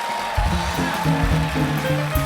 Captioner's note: applause